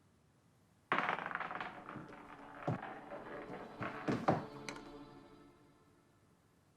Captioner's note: marble rattling; dramatic orchestral music